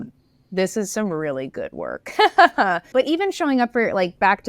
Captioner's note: laughs